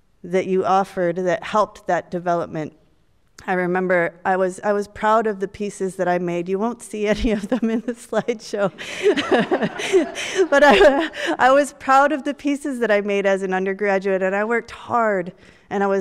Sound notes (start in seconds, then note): 8.7 audience laughs